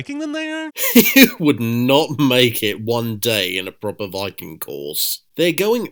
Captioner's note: laughs